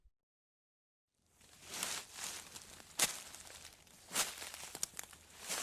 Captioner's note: leaves crunching